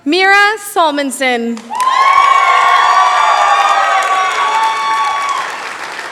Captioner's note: cheering, applause